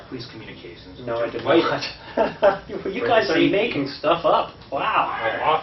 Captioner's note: laughs